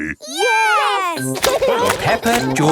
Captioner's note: laughing